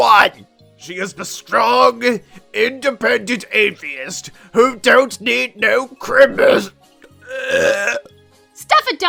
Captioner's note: burps